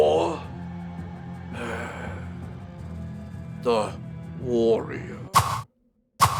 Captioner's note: sighs